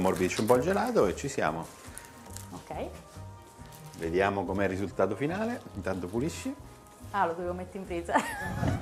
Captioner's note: Risate